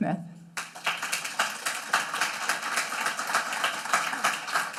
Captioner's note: audience clapping